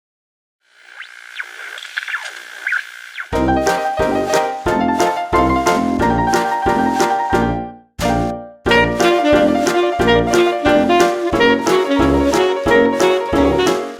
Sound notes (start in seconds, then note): 0.8 television interference